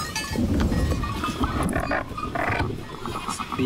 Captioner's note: dog growling; man speaking native language